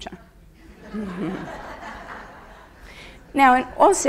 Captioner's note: audience laughs